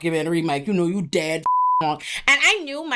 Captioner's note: beep